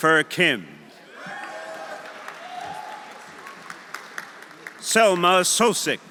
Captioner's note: audience cheering; audience applauding